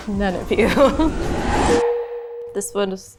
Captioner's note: laughs; title beeps